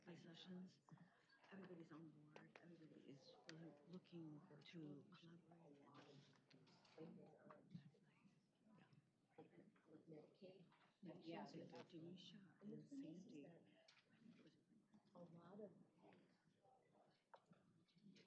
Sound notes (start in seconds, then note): 11.7 indistinct chatter